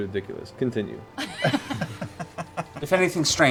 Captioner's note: laughter